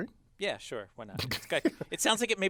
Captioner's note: laugh